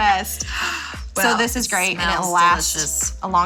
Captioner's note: gasps